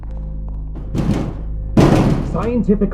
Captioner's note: window banging